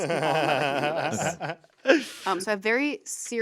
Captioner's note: Anthony laughs